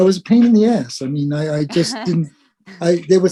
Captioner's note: laugh